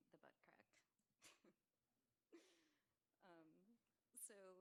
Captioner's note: laughs